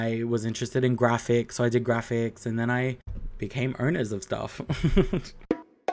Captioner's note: chuckles